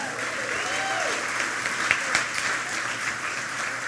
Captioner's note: applause